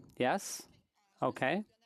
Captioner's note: speaking French